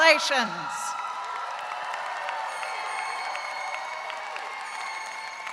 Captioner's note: audience cheering